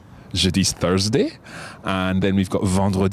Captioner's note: speaks in foreign language